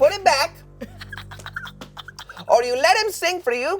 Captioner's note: laughs